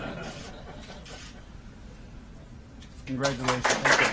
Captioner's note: laughter; camera clicks